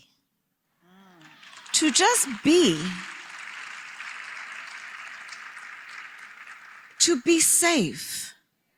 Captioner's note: applause